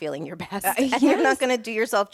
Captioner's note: laughs